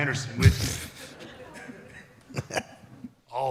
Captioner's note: audience and AJ laughs